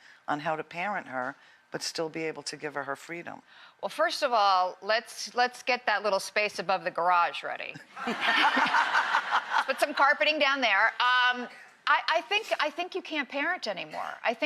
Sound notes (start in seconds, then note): 8.0 audience laughing